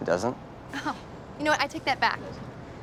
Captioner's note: chuckles